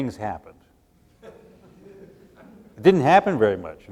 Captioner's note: laughter